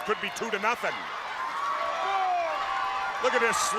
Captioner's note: crowd cheering